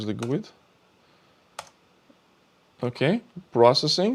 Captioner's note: keyboard clicking